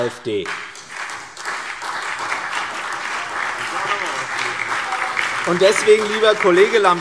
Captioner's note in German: Beifall CDU, BÜNDNIS 90/DIE GRÜNEN, SPD und DIE LINKE